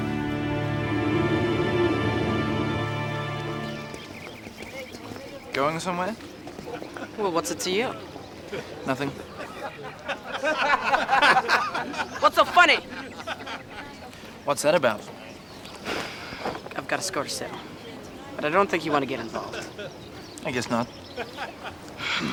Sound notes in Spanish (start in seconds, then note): 0.0 viento que sopla; 2.7 pájaros trinando; 9.1 riendo; 15.1 suspira; 21.1 gemidos